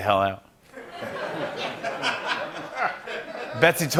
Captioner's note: laughter